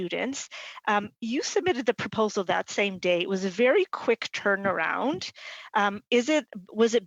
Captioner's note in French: voix de l'interprète